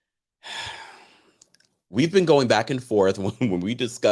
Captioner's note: sighs